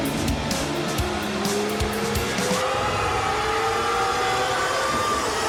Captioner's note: crowd screams